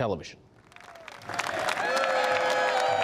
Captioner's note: cheering and applause